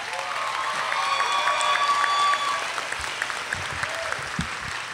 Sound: audience cheers and applauds

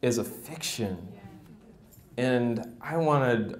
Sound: people chatter

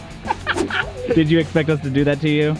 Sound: laughing

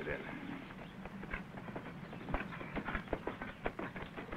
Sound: horse hooves thunder

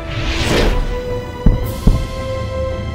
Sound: two sonic booms

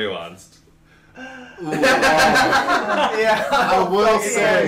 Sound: more groans

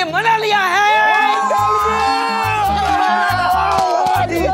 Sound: cheering

